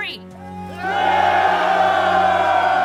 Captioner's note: soldiers cheering